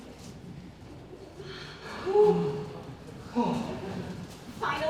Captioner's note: ensemble sighs with relief